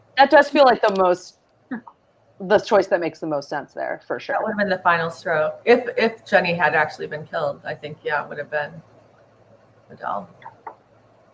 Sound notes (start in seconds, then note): none